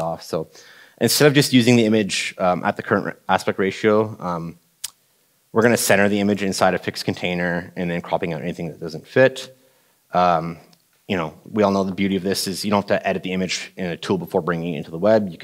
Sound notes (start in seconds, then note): none